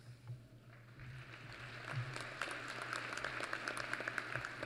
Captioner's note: applause